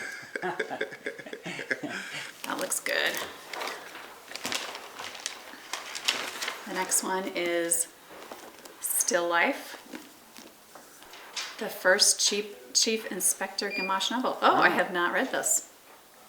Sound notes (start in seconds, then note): 0.0 chuckles; 3.5 plastic rustling